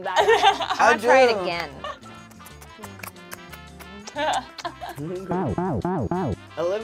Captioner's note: laughs